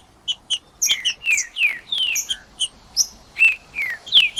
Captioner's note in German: trinca ferro cantando